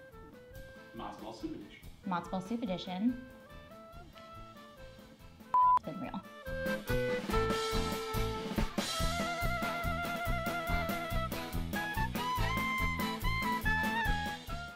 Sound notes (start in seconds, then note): 2.0 upbeat music; 5.5 beep; 6.8 upbeat music